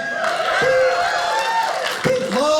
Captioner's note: audience cheers